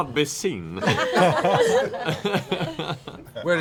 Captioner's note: laughter